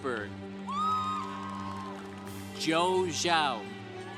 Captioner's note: congregation applauding